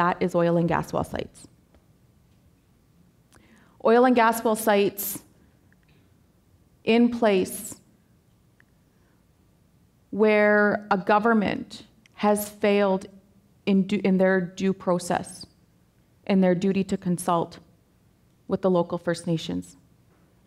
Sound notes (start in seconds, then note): none